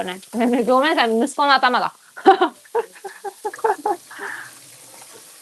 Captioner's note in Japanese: 笑い